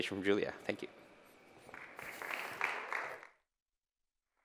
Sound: applause

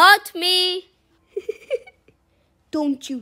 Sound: giggles

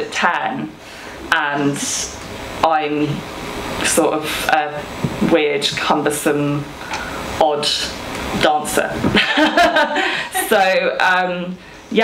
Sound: she laughs

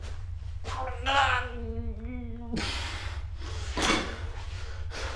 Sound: more pained mumbling

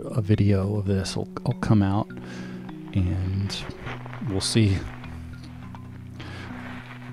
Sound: footsteps crunching

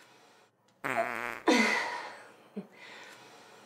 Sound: toot, sigh

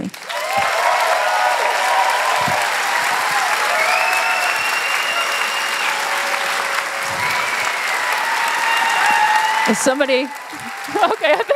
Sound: applause; cheers

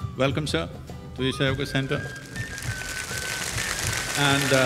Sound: applause

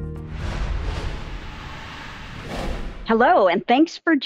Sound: shapes whooshing

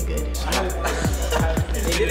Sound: boys laughing

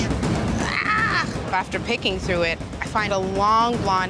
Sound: screams

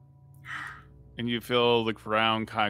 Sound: gasps

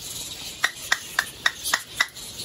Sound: clapping

